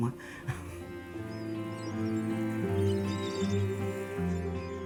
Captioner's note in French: cris de mouettes